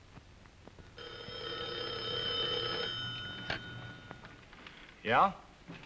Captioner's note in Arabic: يرن الهاتف